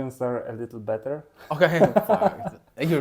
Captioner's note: laughs